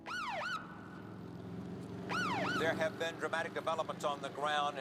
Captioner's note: siren blaring